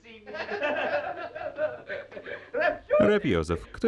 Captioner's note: laughing